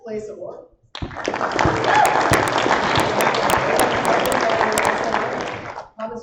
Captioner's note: applause